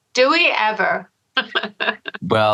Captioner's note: laughter